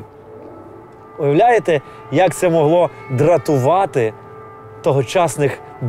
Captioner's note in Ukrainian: звук повітряної тривоги